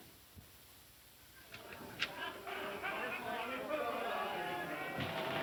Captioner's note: men shouting and singing